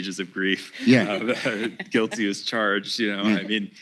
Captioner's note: laughs